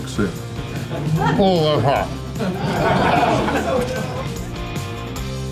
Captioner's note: crowd laughter